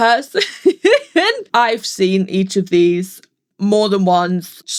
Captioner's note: laughs